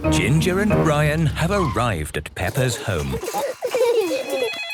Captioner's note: giggling; phone ringing